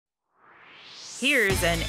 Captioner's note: swoosh